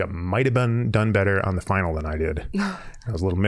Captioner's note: chuckling